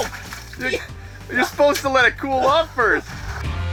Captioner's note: voiceover